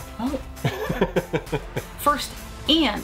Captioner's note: chuckles